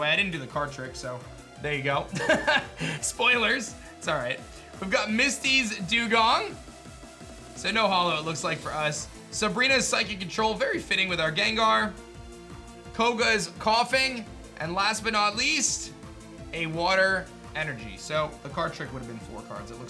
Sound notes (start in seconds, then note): 2.2 laughs